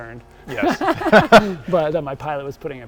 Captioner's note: laughs